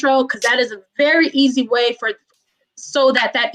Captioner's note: murmurs